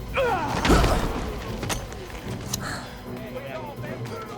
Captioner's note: fighters grunting